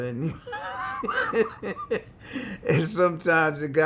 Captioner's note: laughs